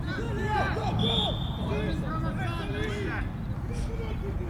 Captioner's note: whistle